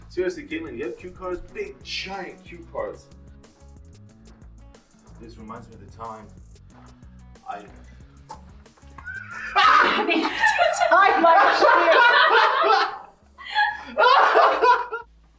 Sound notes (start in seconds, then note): 8.2 laughs